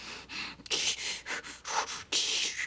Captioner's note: candy breathing heavily